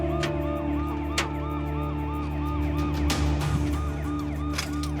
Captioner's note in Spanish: ruido de sirena